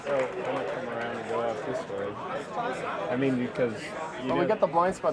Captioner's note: murmurs